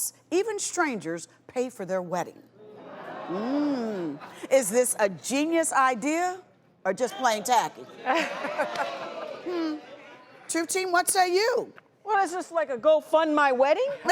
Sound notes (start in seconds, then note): 3.2 audience groans; 7.9 laughs; 8.2 audience groans